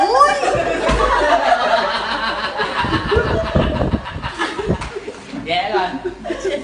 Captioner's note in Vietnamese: Tiếng cười